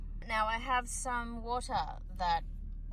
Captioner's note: none